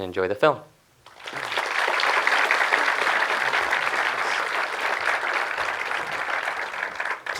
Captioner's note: audience applause